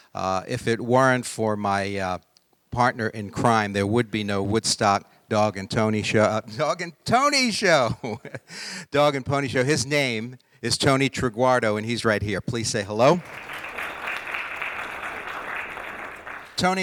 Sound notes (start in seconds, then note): 7.9 laughing; 13.1 audience applauding